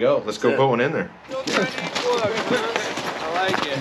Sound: gravel crunching

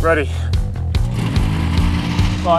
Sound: motor turns on

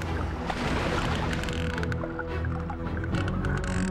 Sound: whales clicking

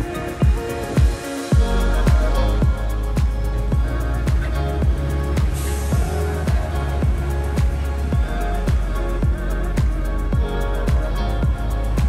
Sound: wind blowing

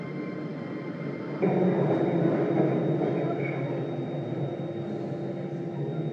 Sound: tram brake sound

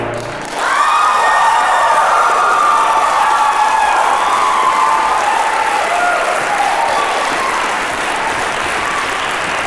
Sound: applause

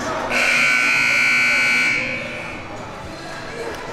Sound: siren buzzing

